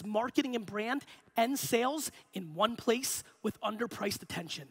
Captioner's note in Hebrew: none